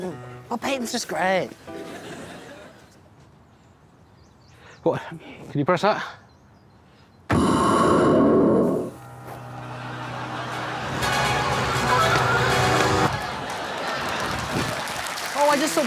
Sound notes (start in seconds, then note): 7.3 bang